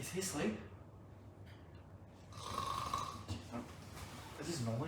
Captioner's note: more snoring